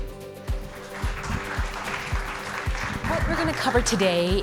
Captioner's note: upbeat music; audience applauds